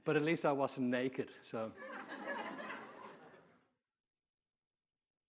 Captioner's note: audience laughing